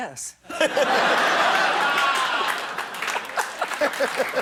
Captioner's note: laughter